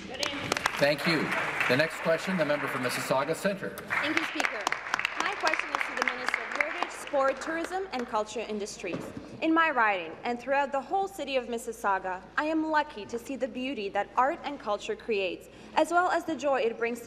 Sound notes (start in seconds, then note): 3.8 applause